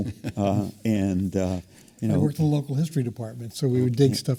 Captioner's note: laugh